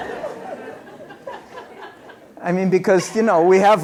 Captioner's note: laughter